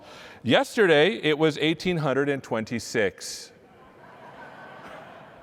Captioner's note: laughter